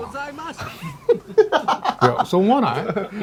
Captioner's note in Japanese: 笑い